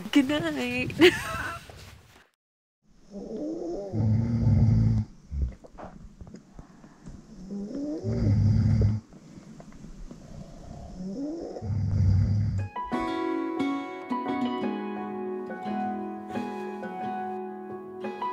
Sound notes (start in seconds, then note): 3.1 snoring sounds